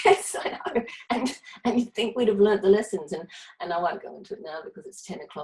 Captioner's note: laughs